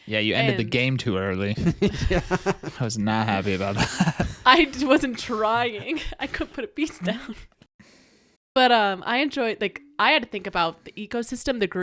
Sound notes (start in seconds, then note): 3.2 laughing